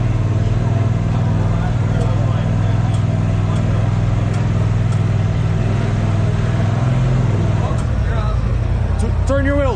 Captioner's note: crowd chattering